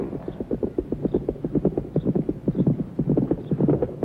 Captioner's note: hooves thundering